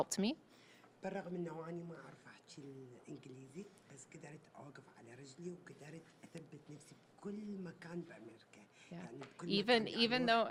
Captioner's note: speaking Arabic